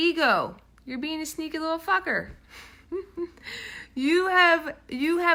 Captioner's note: laughing